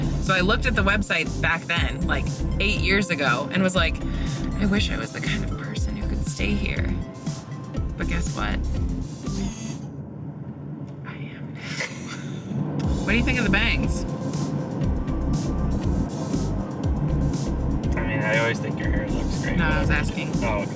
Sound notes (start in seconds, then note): 9.2 camera lens whirring; 11.6 laughing